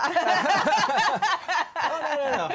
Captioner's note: laughter